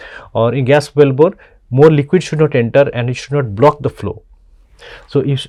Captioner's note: pwf